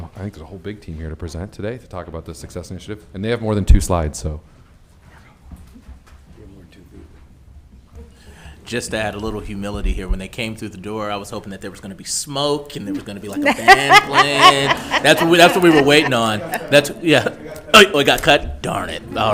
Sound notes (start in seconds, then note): 14.3 all laughing